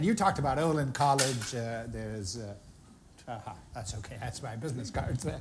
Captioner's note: banging